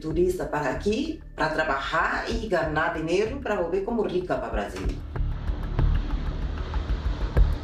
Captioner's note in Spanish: avión despegando; música rítmica